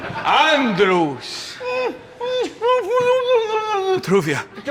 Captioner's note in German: gedämpftes Sprechen